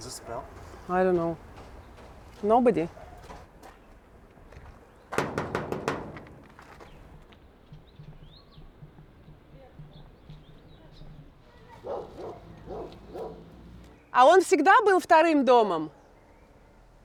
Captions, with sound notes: - I don’t know - Nobody (Knocks on gate) (Dogs barking) Was it always a second home?